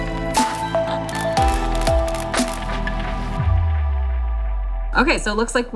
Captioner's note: camera flashing noises; new age pop music